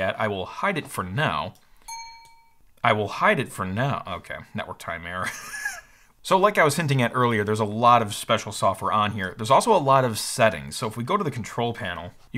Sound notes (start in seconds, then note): 1.8 computer pings; 5.6 laughs